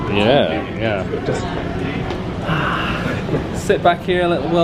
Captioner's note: sighs